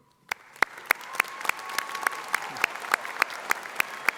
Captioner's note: audience applauding